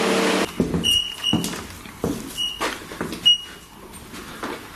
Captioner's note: device beeping